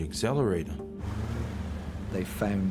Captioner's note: engine revving